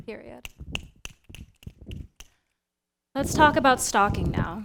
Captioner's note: snapping